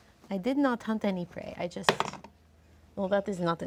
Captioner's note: dice roll